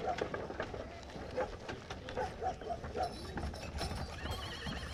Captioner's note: horse hooves clopping; dog barking